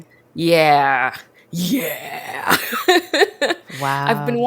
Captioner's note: laughs